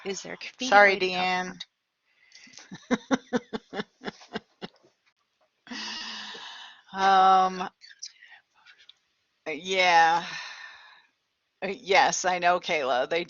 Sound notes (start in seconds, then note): 2.6 laughter